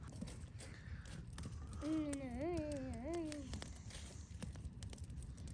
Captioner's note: hums